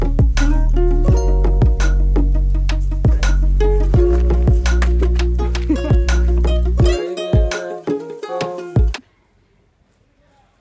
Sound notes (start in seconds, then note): 4.8 man laughs